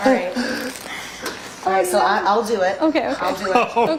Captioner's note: laughter